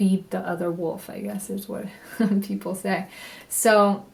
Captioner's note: chuckles